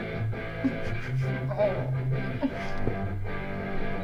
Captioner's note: Stef giggles